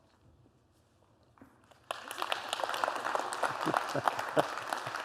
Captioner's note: applause